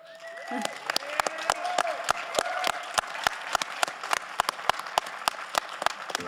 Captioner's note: all applauding; audience cheering